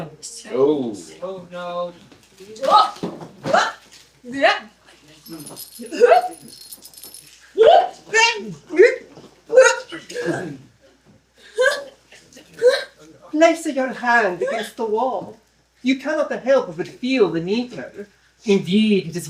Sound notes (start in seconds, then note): 0.2 clanking chains; 4.7 struggling noises, also hiccoughs